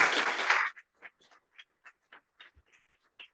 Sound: applause

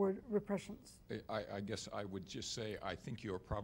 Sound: voiceover

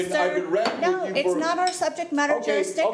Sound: gavel hammering

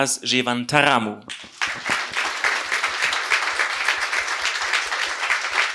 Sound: applause

